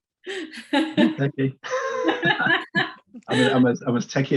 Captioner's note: laughs